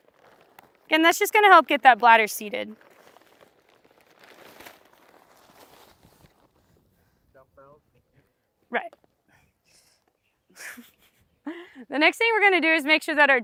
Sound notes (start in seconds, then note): 9.0 laughs